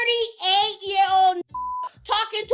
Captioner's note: beep